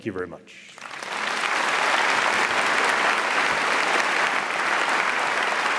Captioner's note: audience applauds